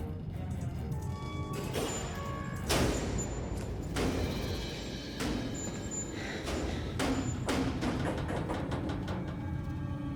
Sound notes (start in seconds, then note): 2.8 banging